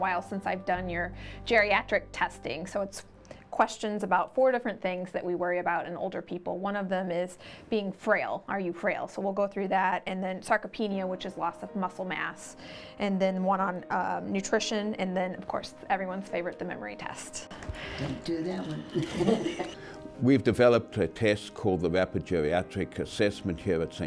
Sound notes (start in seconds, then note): 18.5 laugh